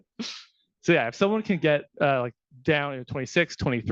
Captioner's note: laughing